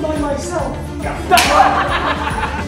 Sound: slap

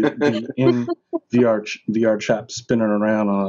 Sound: all laughing

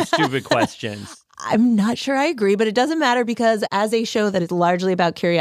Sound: laughs

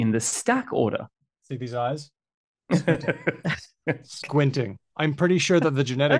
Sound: laughs

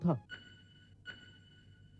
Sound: alarm wails

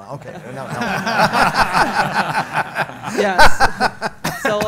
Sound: audience & panel laugh

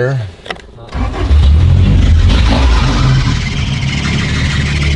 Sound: engine revving

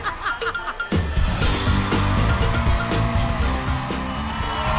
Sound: Rachael laughing; upbeat music; audience cheering

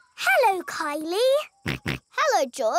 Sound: snorts

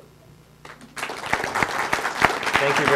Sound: audience clapping

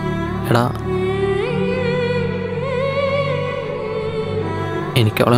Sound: 𝅘𝅥𝅮 Humming 𝅘𝅥𝅮

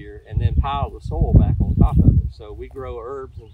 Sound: wind blowing

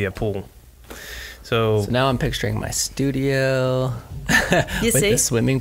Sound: laughs

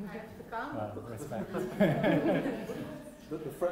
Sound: laughter

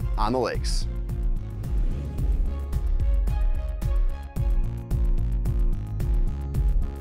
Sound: upbeat music; graphics whooshing

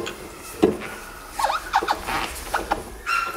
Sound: squeaking

